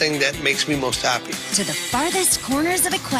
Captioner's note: none